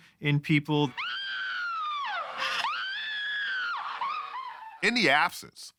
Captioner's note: screaming